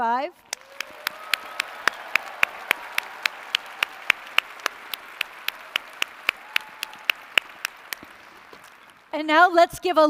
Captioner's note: applause & cheers